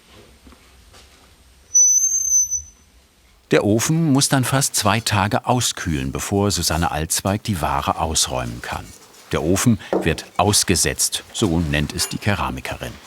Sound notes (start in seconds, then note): 1.7 the door squeaks